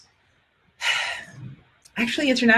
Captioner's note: sighing